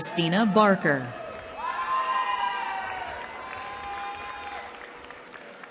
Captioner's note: cheering